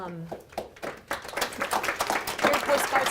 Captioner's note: audience applauding